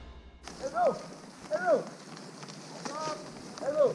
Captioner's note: men shouting